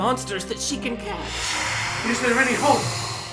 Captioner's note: shrieking